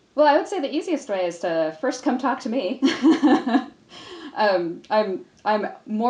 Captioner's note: laughs